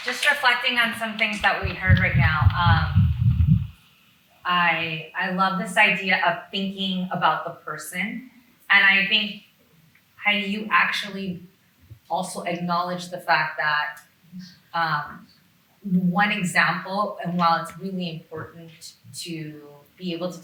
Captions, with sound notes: Just reflecting on some things that we heard right now. (object clanging) I love this idea of thinking about the person. And I think, Heidi, you actually also acknowledge the fact that one example, and while it's really important to be able